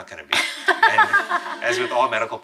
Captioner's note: laughing